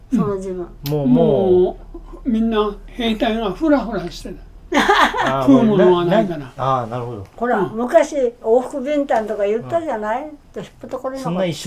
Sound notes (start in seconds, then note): 5.3 laughs